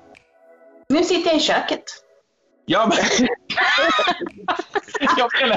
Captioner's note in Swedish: skratt